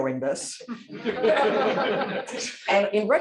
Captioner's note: laughter